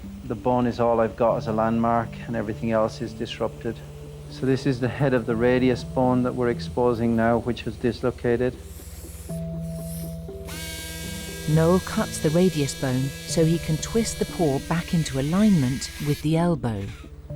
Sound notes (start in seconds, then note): 9.2 drill whirs